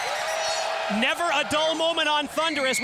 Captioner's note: crowd cheering